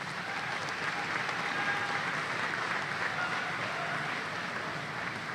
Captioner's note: applause